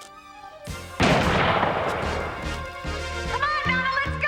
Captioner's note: gun firing